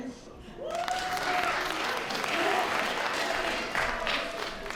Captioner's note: applause